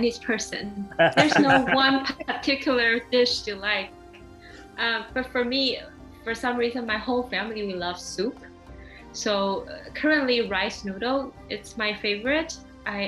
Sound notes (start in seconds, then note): 0.9 laughter